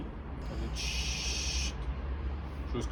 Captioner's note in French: sshhhhht